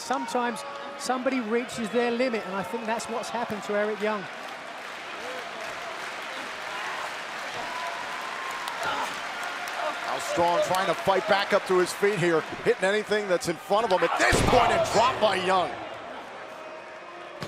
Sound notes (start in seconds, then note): 4.1 crowd cheering